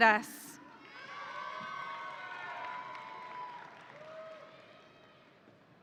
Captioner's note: audience cheering